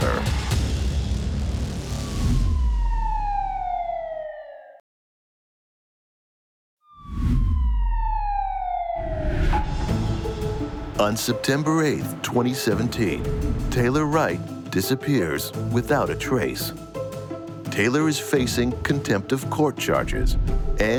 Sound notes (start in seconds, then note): 0.0 tense music; 1.9 siren wailing; 2.3 colored bars whooshing; 6.9 siren wailing; 7.0 colored bars whooshing